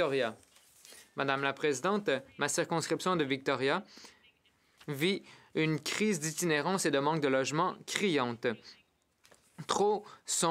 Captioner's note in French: voix de l'interprète